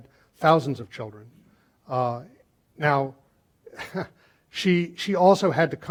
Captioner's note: laughing